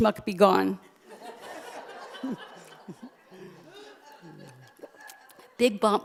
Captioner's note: laughter